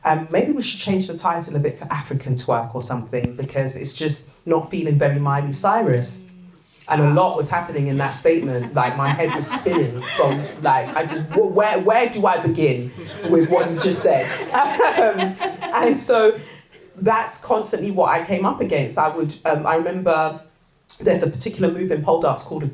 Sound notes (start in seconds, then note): 14.4 audience laughter